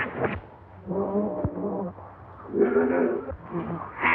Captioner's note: snarling more intensely